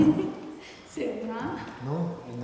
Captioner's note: speaking tibetan